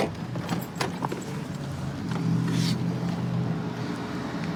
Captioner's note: distant traffic hum